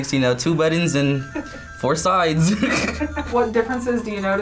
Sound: laughs

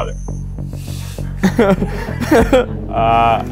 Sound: laughing

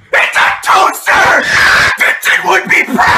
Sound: screaming

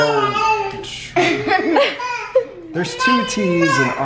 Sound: laughing

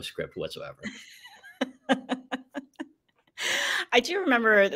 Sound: laughs

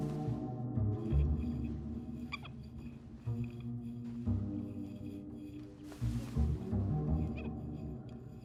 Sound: glass squeaking

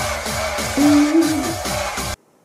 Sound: Waifu admiring noises

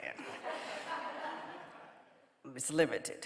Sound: audience laughing

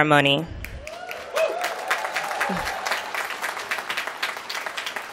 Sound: applause

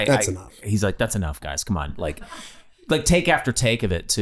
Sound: laughing

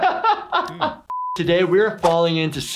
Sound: laughs; beep

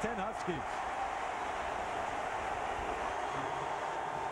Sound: cheering, applause

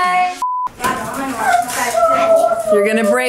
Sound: beep

